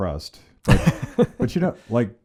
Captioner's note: laughs